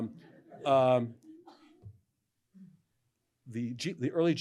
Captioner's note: laughter